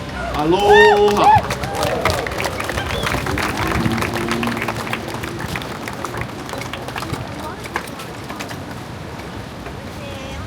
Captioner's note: applause